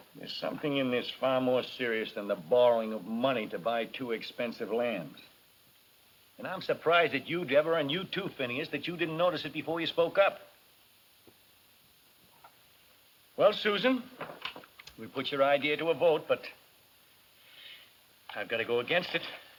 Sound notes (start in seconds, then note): none